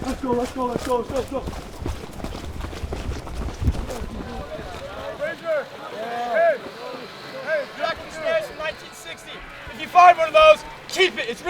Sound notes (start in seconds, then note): 0.0 footsteps pounding; 4.3 rooks chattering